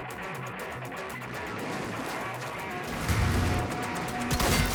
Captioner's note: slow ahh projectile passes